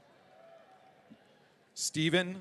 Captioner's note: audience cheering